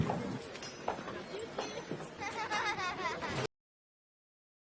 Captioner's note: laughter